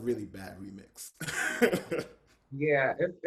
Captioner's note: laughter